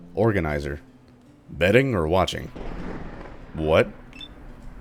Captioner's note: thunder